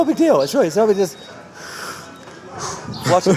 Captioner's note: breathes deeply